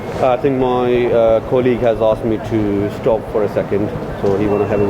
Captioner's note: radio beeps